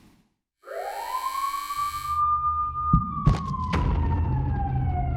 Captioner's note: siren wailing